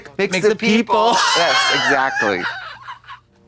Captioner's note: Katya hisses